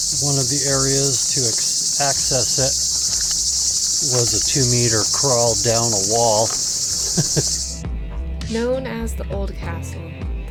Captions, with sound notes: one of the areas to access the castle... was a two meter crawl down a wall. (Chuckle)